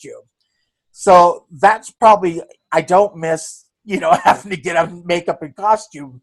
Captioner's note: laughing